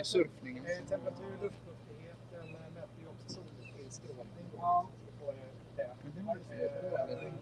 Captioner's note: speaking Swedish